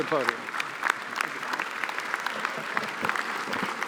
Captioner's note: applause